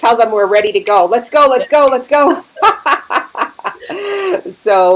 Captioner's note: laughing